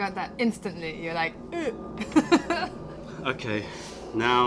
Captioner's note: laughter